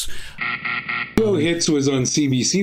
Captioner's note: buzzer sounding